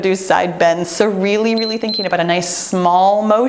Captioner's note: timer beeps